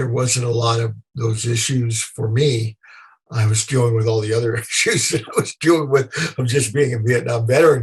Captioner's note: laughter